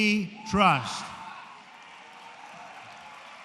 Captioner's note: applause